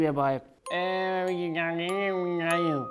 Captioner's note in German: Sphärisches Murmeln